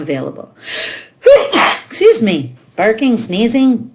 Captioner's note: sneezing